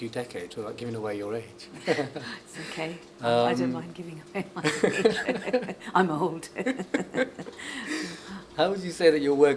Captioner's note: laughs; laughs